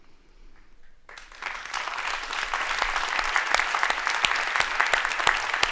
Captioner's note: audience applauds